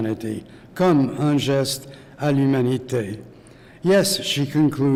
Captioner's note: speaking french